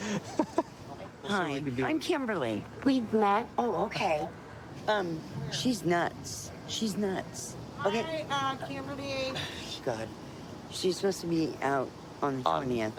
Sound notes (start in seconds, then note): 0.0 laughing; 9.2 scoffs